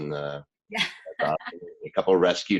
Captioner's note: laughing